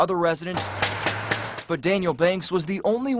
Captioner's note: sound of door knock